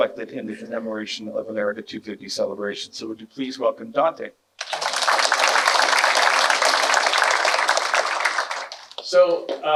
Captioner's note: clapping